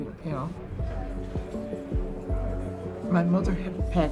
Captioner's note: people talking in background